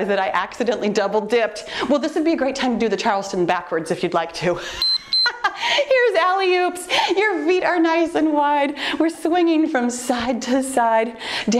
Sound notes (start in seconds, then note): 4.6 laughs; 4.7 timer beeps